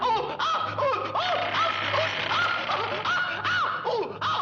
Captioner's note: door creaking